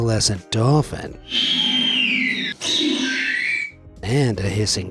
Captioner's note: squeals